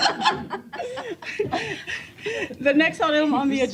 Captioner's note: laughter